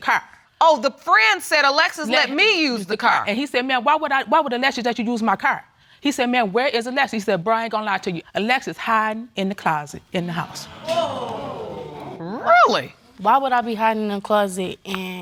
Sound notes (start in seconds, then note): 10.4 audience exclaiming